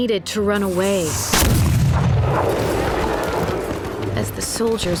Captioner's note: cannon blast